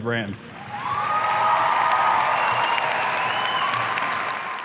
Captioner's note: audience cheering